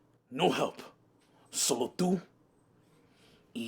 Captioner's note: Spanish